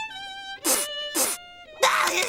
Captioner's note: Spongebob Sniffs In Tears